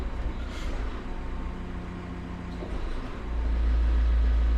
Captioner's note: engine purring